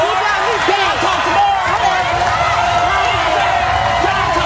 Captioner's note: audience cheering